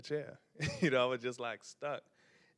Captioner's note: chuckles